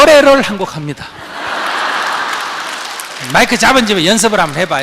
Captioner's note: audience laughter and applause